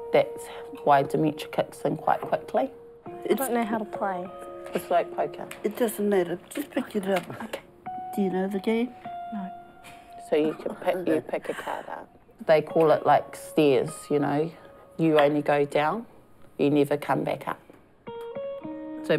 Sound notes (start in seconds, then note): 10.4 laughs